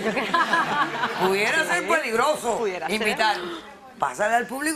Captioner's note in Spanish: risas; risas